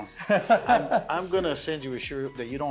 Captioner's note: laughing